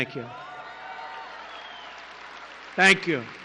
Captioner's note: applause